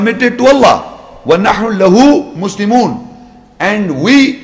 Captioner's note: Arabic